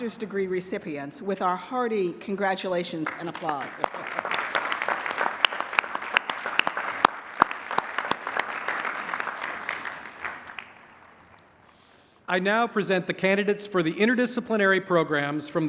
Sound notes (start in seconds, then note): 3.5 applause